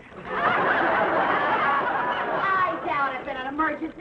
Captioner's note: audience laughing